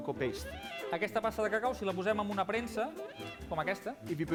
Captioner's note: non-english speech